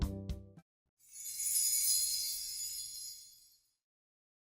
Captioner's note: chimes